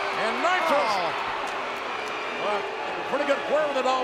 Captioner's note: audience booing